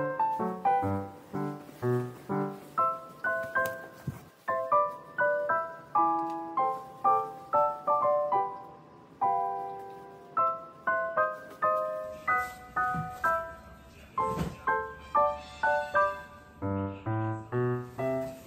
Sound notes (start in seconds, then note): 3.3 hitting fat belly